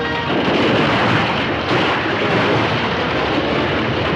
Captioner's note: temple collapsing